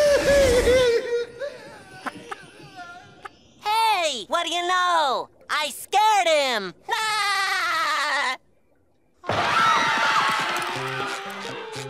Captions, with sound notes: Hey, what do you know? I scared him. [laughing] [screaming]